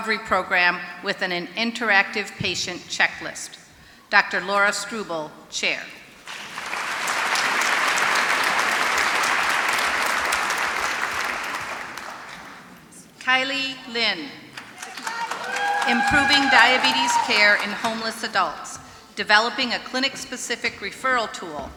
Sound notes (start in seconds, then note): 6.2 applause; 14.5 applause